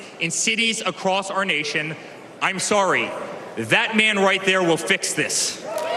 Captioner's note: cheers and applause